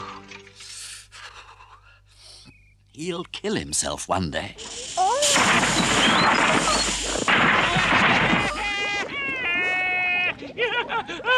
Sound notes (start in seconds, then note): 7.3 Toad laughs hysterically